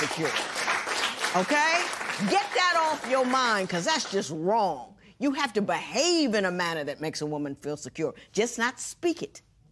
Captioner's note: applause